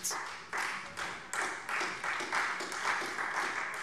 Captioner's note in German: Beifall Freie Demokraten